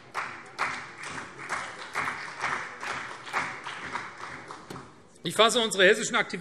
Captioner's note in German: Beifall CDU